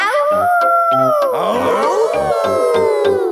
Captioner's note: howling; all howling